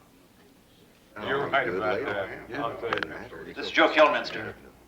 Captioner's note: chattering